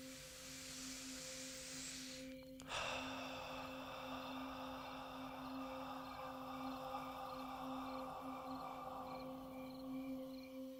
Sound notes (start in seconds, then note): 0.3 inhales and exhales breath; 6.6 crickets